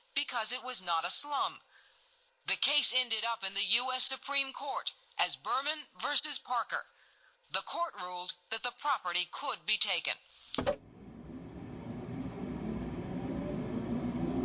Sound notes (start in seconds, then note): 10.9 engine humming